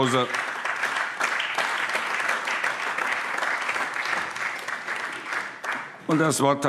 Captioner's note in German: Allgemeiner Beifall